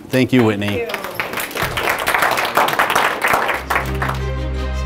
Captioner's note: applause